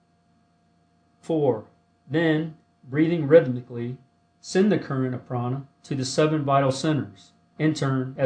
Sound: breathing rhythmically

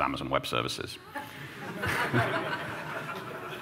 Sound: laughter

